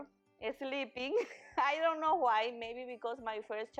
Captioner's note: chuckles